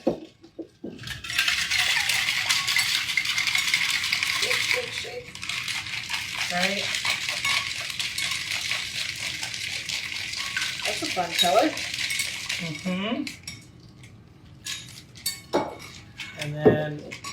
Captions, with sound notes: (drink sloshes) - Shake, shake, shake. Right? That's a fun color. - And then,